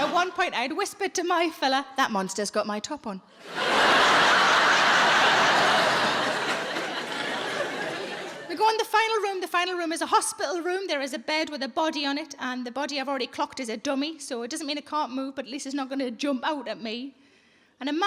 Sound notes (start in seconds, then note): 3.4 audience laughs